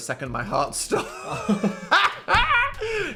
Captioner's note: both laughing